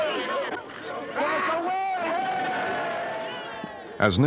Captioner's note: cheers